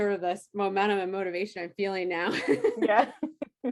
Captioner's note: laughs